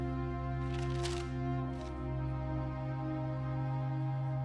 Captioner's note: pages fluttering